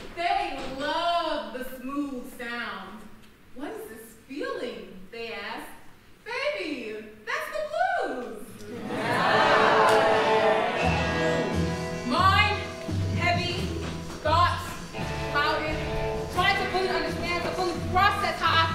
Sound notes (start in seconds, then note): 8.7 audience laughing